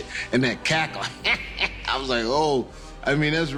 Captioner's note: mimics cackle